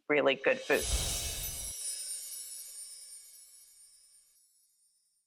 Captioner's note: gentle chiming